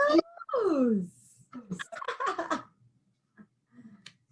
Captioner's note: laughs